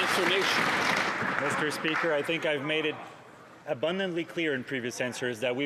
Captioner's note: some Applause